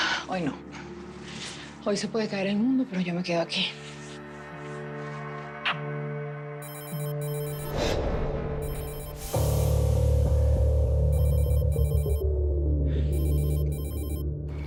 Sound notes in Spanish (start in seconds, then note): 6.6 Suena el celular